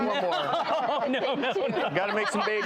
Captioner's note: laughing